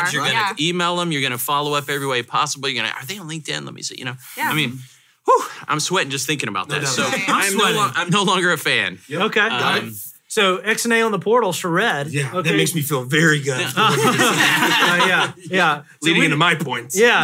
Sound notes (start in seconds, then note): 13.6 hosts laugh